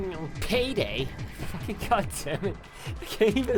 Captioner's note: laughs